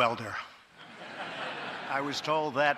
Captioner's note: laughter